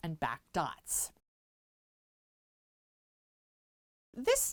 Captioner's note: no Sound Present